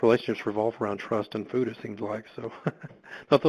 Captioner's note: chuckles